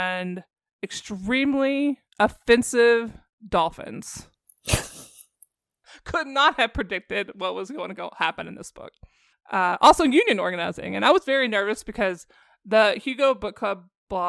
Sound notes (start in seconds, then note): 4.7 snorts